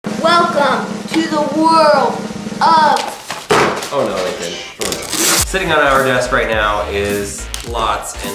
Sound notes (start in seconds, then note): 0.0 drum roll; 3.4 crash